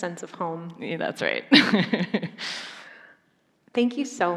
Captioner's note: laughs